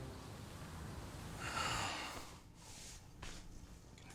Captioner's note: sighs